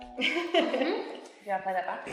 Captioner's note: laughs